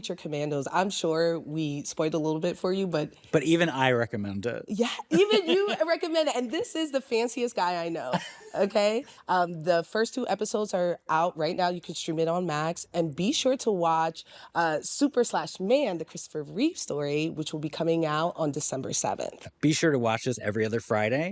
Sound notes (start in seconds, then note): 5.1 chuckles; 8.0 chuckles